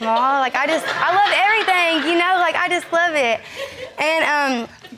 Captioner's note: audience laughing